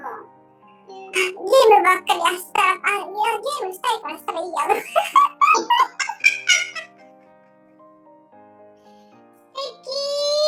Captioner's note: laughs